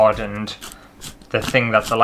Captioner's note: pepper Grinding